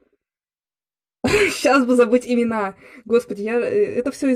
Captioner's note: giggle